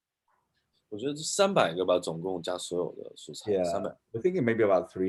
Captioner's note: speaking in foreign language